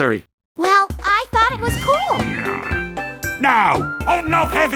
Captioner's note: grumbles as he gets up from the explosion